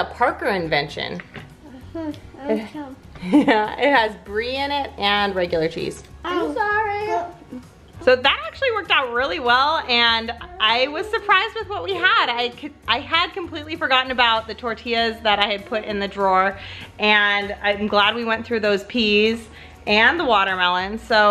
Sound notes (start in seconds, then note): 3.2 laughs